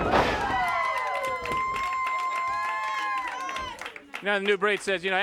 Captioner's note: audience applauds